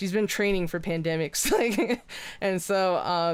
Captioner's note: laughs